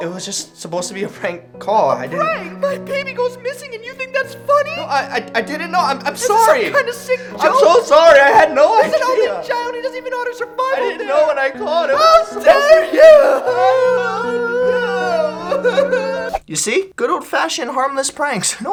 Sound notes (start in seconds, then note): 10.5 crying; 13.6 both crying